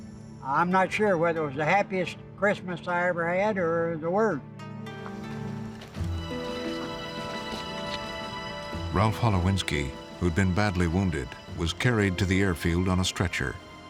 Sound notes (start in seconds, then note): none